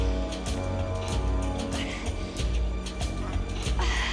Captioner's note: groaning